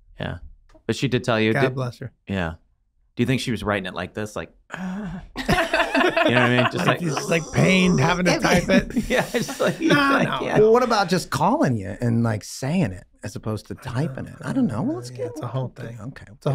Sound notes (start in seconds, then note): 5.3 all laughing; 6.2 Glenn groaning